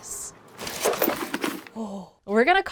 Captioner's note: rustling